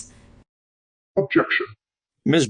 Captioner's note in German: verzerrt